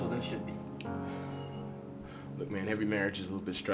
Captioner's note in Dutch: Drew ademt zwaar